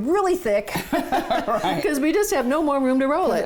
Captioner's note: both laughing